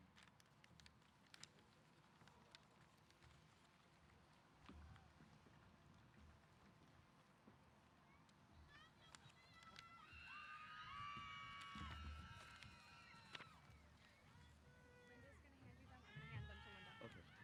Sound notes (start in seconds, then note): 8.6 cheers